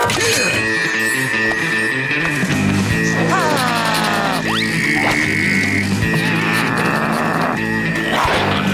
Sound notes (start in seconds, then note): 3.2 growling